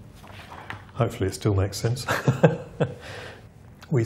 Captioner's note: laughs